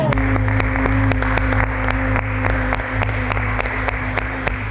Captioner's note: people applauding